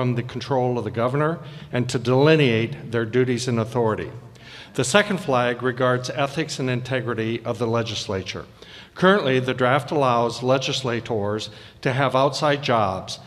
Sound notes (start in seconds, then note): none